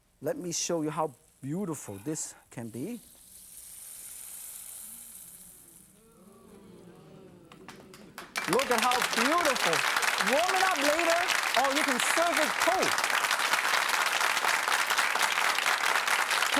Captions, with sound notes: Let me show you how beautiful this can be. (audience applauding) (sizzling) Look at how beautiful. Warm it up later or you can serve it cold.